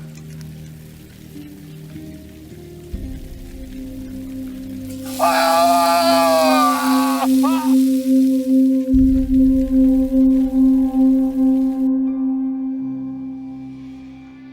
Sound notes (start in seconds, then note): 0.1 gentle melodic music; 4.8 flesh sizzling; 5.0 Ishmael shrieking; 8.7 gentle melodic music